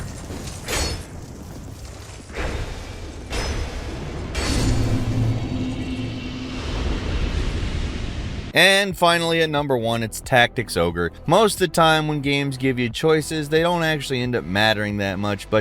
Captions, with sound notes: (metal clanking) And finally, at number one, it's "Tactics Ogre." Most of the time when games give you choices, they don't actually end up mattering that much.